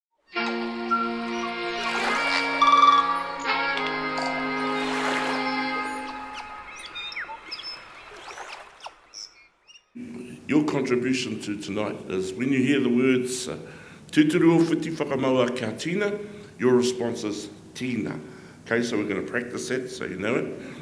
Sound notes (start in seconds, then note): 0.2 soothing music; 6.9 birds chirping